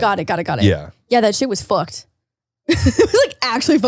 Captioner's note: laughs